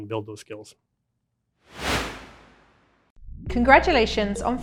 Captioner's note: swoosh